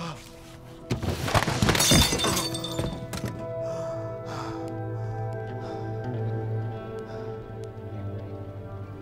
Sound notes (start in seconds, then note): 0.2 Hopkins sighing; 1.3 glass shattering; 4.3 anxious music